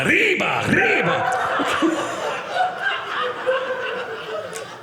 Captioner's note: audience laughing